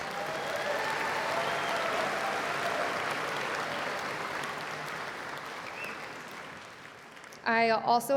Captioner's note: cheers and Applause